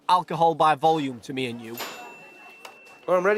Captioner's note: ding